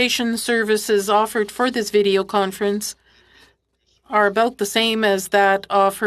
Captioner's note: speaking French